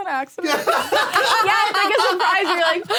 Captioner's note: all laughing